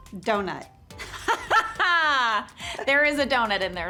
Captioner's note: Jenna laughing